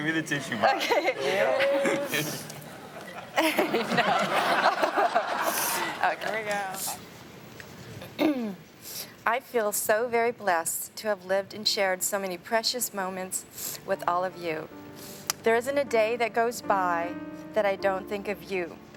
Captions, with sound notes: Give her the tissue box. - Okay. (everyone laughs) Okay. - Here we go. - "I feel so very blessed to have lived and shared "so many precious moments with all of you. "There isn't a day that goes by that I don't think of you,